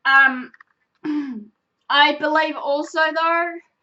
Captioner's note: clears her throat